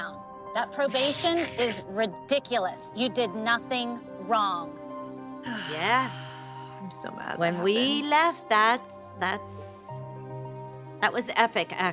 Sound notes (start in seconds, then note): 0.9 snickering; 5.4 Kendall sighs